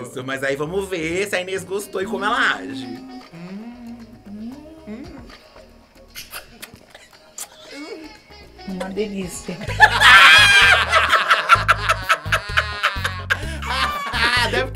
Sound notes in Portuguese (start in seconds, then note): 6.0 beijo; 9.6 risos